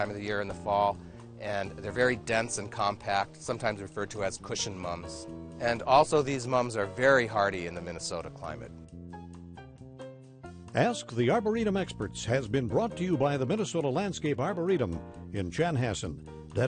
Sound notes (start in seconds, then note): 10.5 voiceover